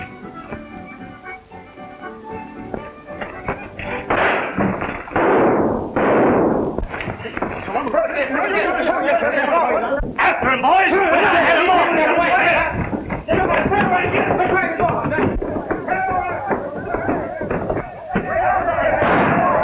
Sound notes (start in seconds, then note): 4.0 gunshots; 8.5 shouting in Spanish; 12.4 shouting